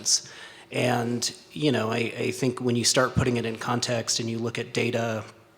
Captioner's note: stutters